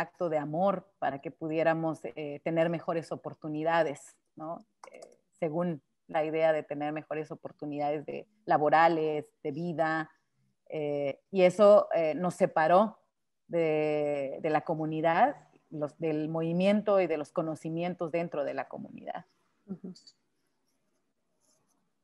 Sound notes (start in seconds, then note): 9.4 speaking Spanish